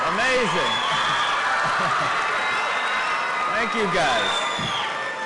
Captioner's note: cheering and Applause